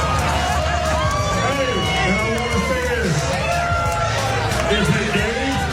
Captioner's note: applause